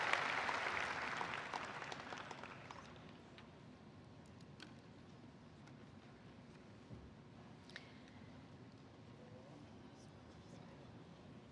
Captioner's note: applause